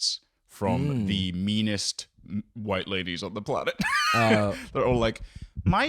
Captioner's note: laughs